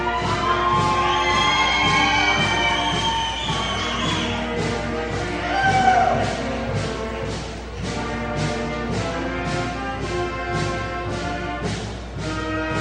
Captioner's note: cheering, applause